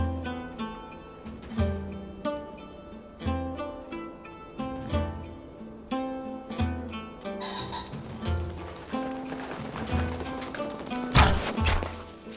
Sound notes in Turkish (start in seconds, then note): 7.4 Kuş cıvıltısı sesi; 10.9 Ok sesi